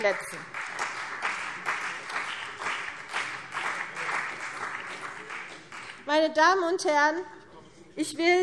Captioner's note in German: Beifall CDU und vereinzelt BÜNDNIS 90/DIE GRÜNEN